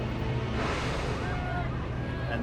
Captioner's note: gasping and shouting